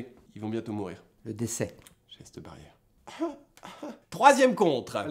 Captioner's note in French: tousse